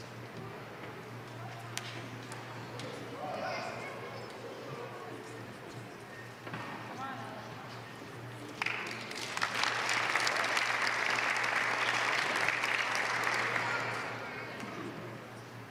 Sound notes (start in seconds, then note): 8.5 applause